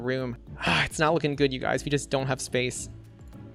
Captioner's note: sighs